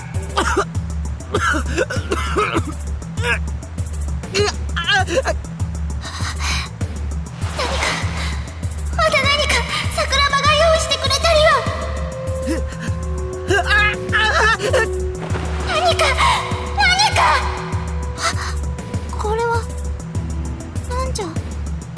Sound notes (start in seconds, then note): 1.2 coughing fit; 3.1 pained groans; 5.9 bated breath; 13.4 pained groans; 18.2 gasp